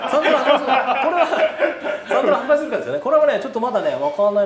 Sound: laughs

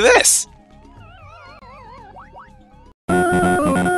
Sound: Pac-Man makes death noises and screams; progress jingle plays

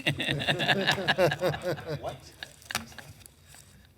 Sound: laughing

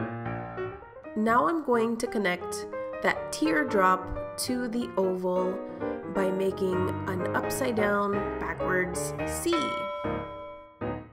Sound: ding

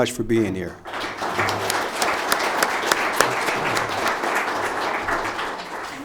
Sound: audience applauding

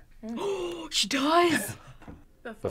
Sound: gasps

